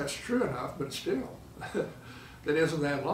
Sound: laughs

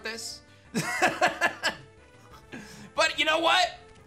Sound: laughs

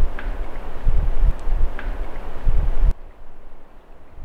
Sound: wood knocking

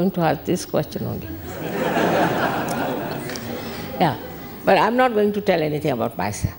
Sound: all laugh

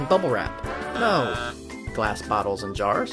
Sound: buzzes

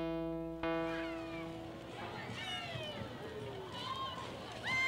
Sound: crowd chattering

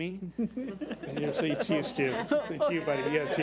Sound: board laughs

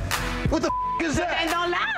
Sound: beep

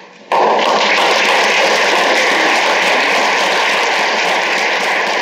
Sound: applause

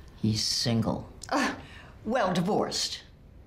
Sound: laughs

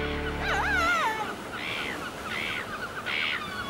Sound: birds cawing

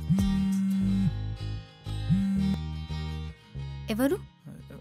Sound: Chaithra whistles; whistles

